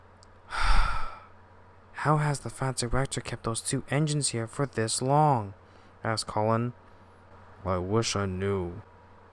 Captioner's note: sigh